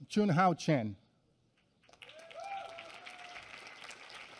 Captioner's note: applause